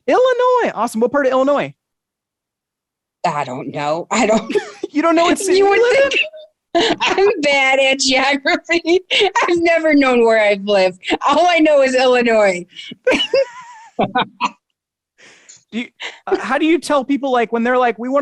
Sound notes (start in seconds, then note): 7.1 chuckling; 13.0 laughing